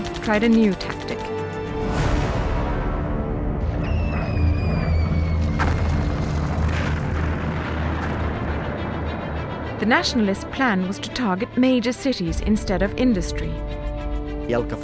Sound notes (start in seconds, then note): 2.0 dramatic thud; 4.0 squealing; 5.4 crashing; 14.6 speaking foreign language